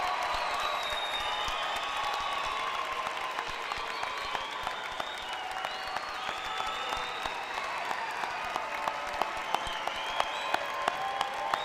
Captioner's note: cheering and applause